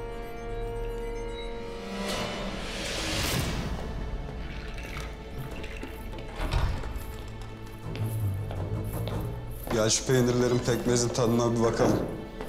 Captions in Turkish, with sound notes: (Kapı açılma sesi) Gel şu peynirlerin, pekmezin tadına bir bakalım.